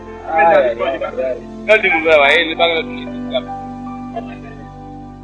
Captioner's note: indistinct chatter